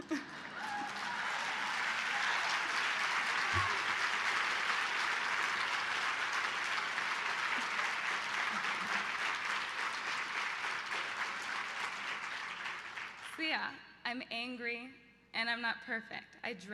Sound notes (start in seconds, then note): 0.8 loud applause